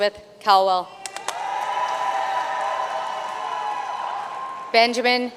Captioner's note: audience cheering and applauding